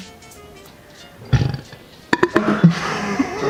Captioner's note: evil burp